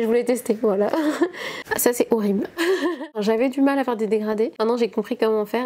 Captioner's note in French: rires